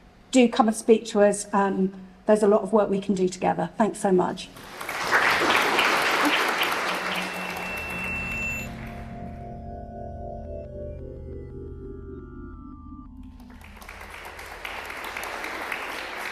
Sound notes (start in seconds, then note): 4.5 applause; 8.8 drone-like music; 13.2 applause